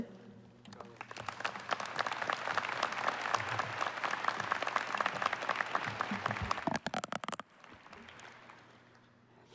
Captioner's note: applause